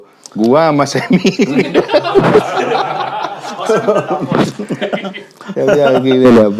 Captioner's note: laughs